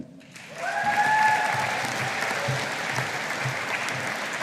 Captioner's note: audience applauding